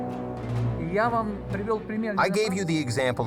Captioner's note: speaking foreign language